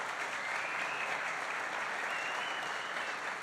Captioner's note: applause